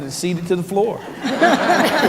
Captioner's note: laughter